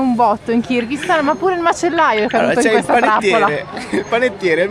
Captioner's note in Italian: risate